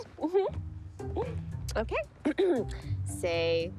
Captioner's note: clearing throat